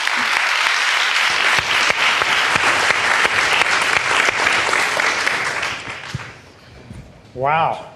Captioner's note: applause